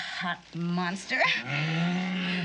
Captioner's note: monster growls